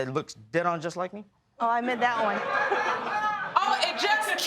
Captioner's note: laughter